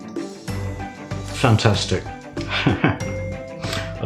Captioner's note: laffs